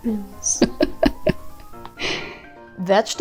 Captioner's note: man laughs